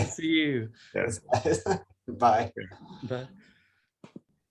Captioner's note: laughs